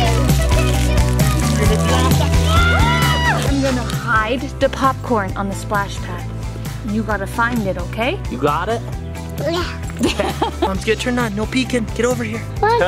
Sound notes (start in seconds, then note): 1.5 screaming playfully; 10.0 laughs